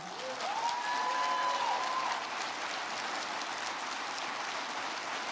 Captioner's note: crowd clapping and cheering